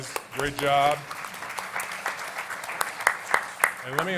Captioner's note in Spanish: Aplausos